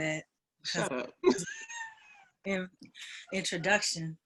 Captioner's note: laughs